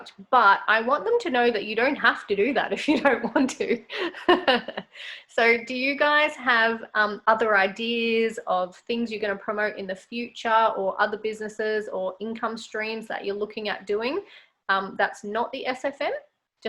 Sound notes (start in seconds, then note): 3.9 laughs